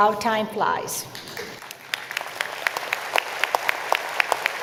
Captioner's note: applause